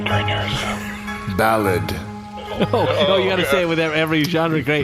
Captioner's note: laughing